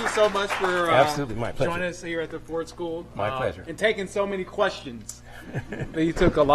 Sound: applause

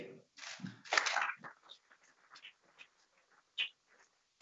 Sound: audience claps

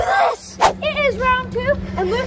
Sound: swooshing

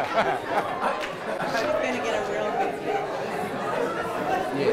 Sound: attendees laughing; background chatter

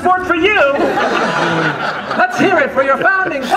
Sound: audience laughter

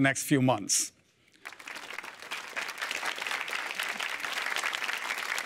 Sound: applause

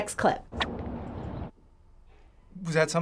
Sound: wind blowing; birds tweeting

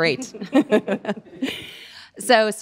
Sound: both laughing

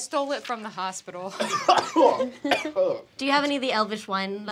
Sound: coughing

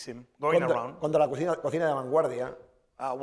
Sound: speaking spanish

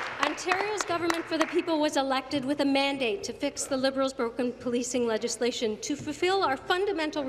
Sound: applause

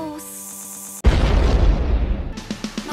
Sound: booooooom

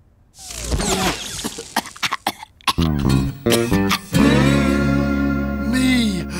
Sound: coughing

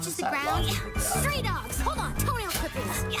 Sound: laughs

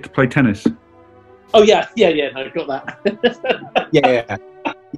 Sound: chuckles

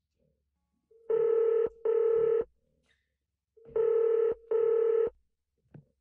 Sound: phone dialing

